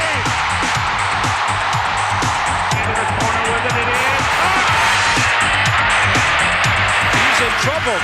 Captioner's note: cheering